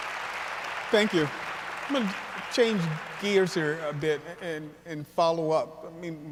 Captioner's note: applause